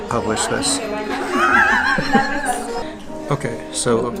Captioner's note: laughs